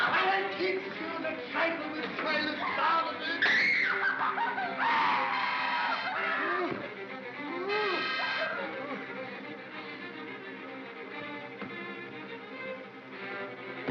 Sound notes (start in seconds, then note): 3.3 Barnaby cries out; 3.4 Bo Peep screams; 7.6 Barnaby groans; 9.4 suspenseful music